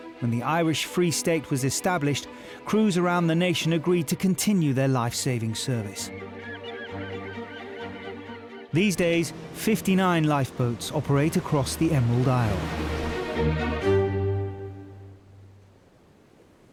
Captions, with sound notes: when the Irish free state was established, crews around the nation agreed to continue their lifesaving service. (seagulls squawking) These days, 59 lifeboats operate across the Emerald Island.